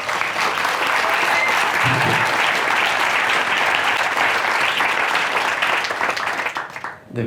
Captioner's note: applause